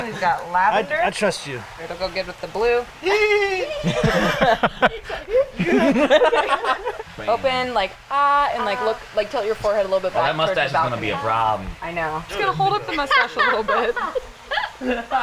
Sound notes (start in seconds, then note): 5.0 everyone laughs; 14.0 background laughter